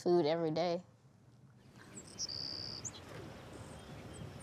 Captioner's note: birds chirping